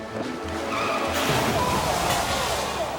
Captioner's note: drivers groaning; snowmobiles crashing; people gushing